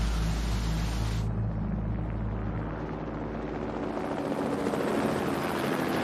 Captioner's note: helicopter thrumming